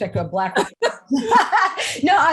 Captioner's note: laughing